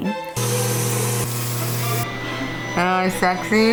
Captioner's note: laser buzzing